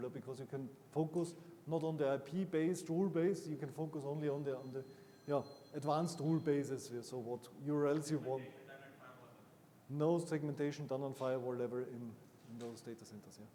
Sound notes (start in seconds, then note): 3.6 phone ringing; 8.5 attendee 1 faintly speaking